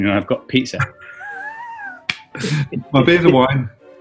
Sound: chuckles

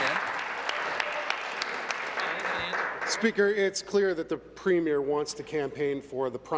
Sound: applause

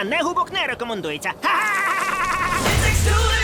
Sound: laughing

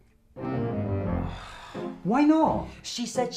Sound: sigh

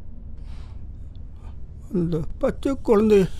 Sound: Rajeev Cries

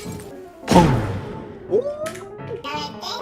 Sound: bang~

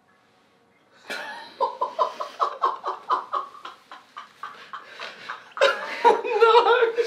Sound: laughter

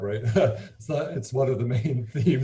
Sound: laughing

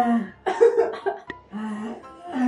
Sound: laughing

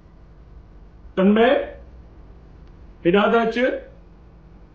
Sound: in Sindhi language

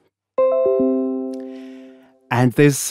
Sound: Windows alert sound

